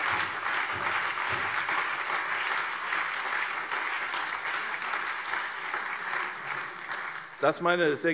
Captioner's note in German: Beifall CDU, BÜNDNIS 90/DIE GRÜNEN, SPD, AfD und Freie Demokraten